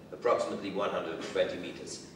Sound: none

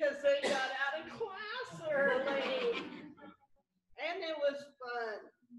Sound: laughter

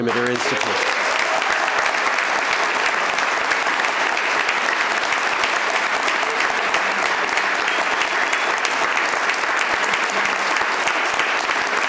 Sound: applause

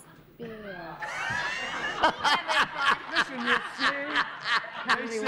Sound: laughter

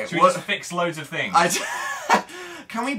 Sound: giggles

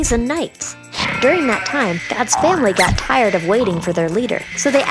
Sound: snoring

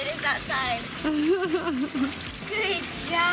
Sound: laughs

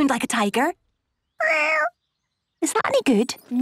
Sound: small meow

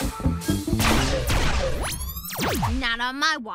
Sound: lasers firing

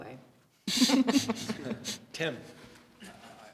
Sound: laughter

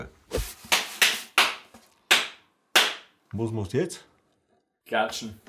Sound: claps again

